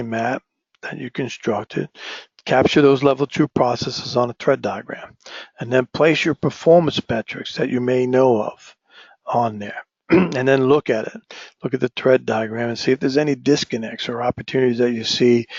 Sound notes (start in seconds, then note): 10.1 cough